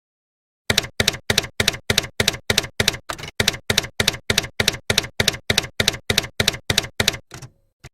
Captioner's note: typewriter keys clacking